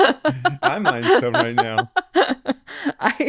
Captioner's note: laughing